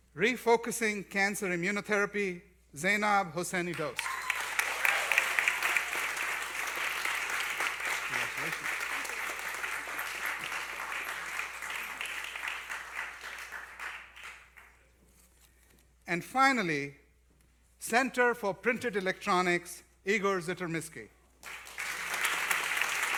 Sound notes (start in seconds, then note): 3.6 applause; 21.4 applause